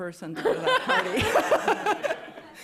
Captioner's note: laughter